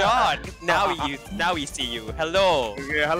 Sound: laughs

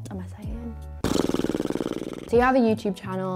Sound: lips flapping

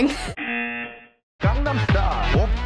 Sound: buzzer

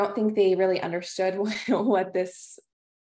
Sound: laughter

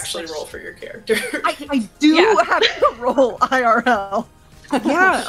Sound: laughter

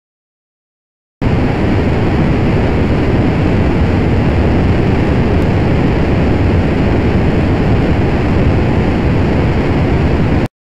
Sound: sound of turbine

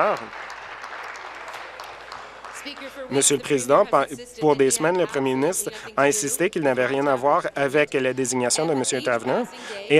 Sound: applause

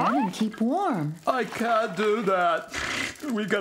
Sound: sniffs

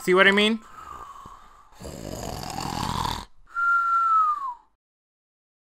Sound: snoring loudly

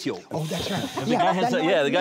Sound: laughs

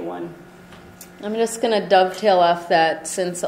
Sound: voiceover

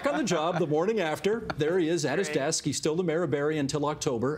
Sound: laughter

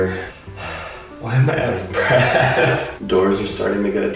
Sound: sighs

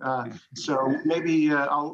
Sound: laughing together

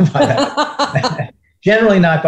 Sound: laugh

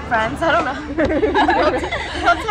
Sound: girls laugh

